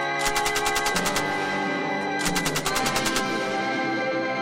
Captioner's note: gunfire rattling